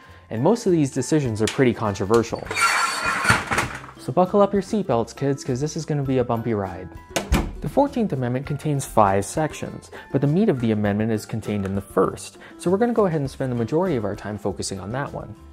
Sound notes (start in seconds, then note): 2.3 ironing board screeching; 6.7 door closes